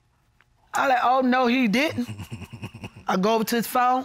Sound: chuckles nervously

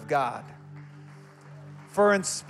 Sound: congregants applauding

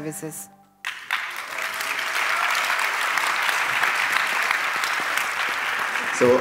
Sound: applause

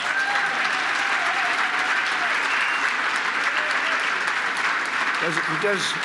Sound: applause

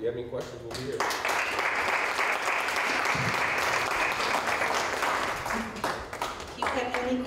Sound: applause

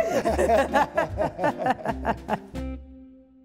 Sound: laughter

